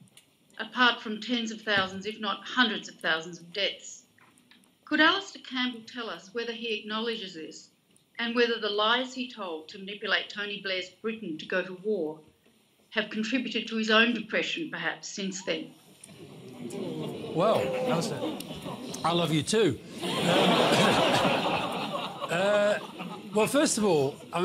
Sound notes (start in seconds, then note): 16.0 audience murmurs; 19.9 laughter